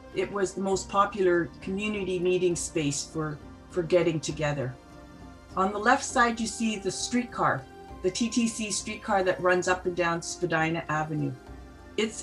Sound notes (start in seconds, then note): none